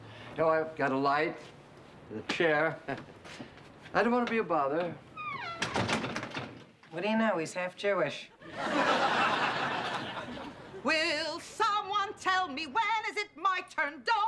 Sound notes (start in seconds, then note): 3.1 chuckles; 5.2 door slams shut